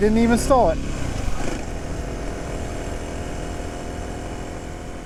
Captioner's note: bike wheels whirring